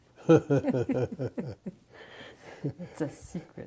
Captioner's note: laughter